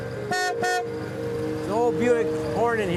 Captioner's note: honks horn